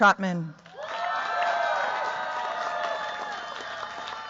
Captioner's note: cheers, applause